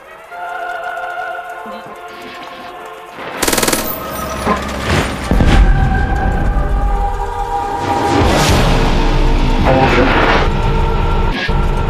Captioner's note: gun shots – Explosions